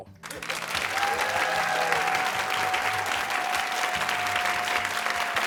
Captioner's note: cheers and applause